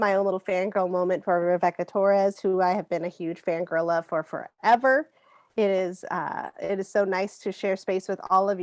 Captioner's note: taking two deep breaths